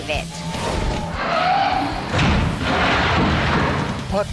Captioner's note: loud scratching